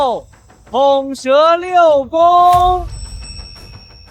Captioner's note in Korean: 삐빅